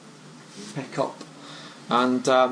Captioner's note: voiceover